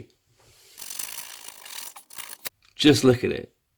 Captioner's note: cooking noise